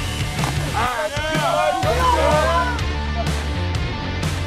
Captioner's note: players yelling